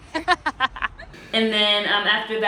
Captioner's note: laughs